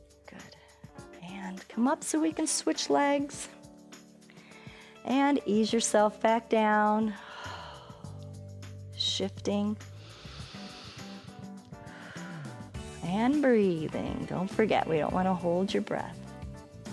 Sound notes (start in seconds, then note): 7.1 exhales; 9.9 inhales and exhales